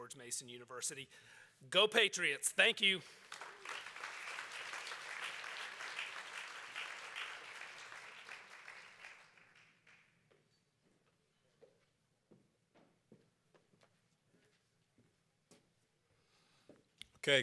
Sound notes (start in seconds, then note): 5.2 applause